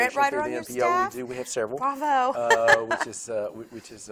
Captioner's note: laughs